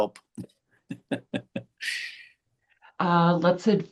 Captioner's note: chuckling